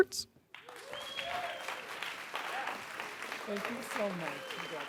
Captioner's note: audience applauds and cheers